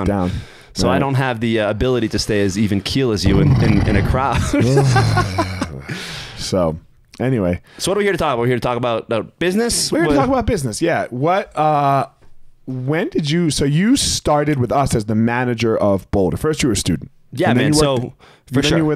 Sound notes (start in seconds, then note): 3.2 groans; 3.2 snorting; 4.0 laughs